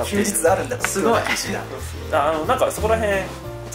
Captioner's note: laughs